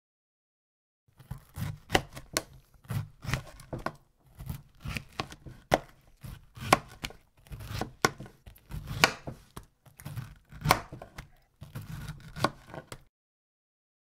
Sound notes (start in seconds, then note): 0.0 sound of knife